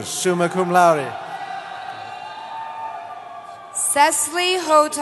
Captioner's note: cheering